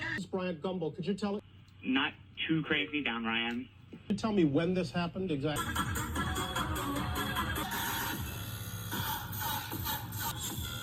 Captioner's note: video plays in background